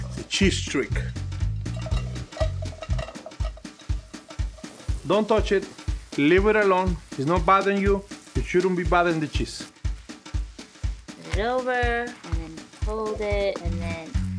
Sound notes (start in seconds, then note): 1.3 jazzy music; 1.7 cheese falling into pan; 10.1 jazzy music